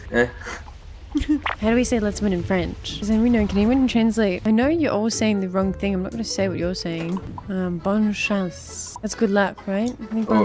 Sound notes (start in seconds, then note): 7.8 French